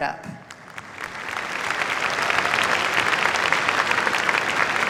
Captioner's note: applause